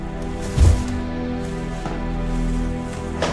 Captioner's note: plastic bags thud